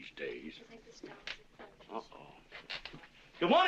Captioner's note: woman chattering